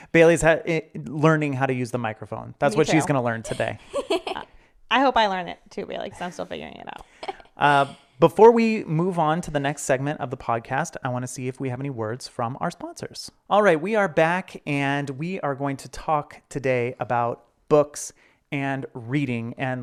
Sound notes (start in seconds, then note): 2.8 laughing